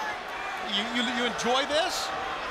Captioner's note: crowd chatter